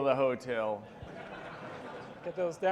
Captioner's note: audience laughing